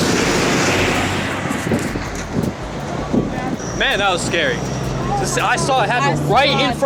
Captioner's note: cars driving